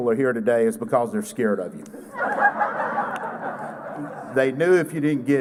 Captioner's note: laughter